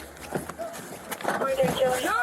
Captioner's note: radio chatter